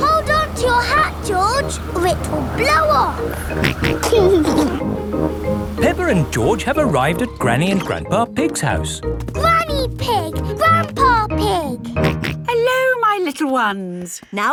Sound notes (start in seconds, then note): 0.0 giggles; 3.2 snorts and giggles; 12.0 snorts